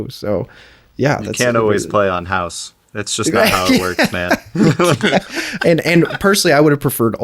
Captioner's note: laughing